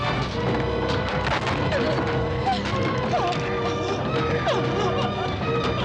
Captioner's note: whimpering